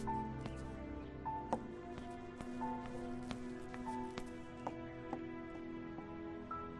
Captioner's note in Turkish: Ayakkabı sesi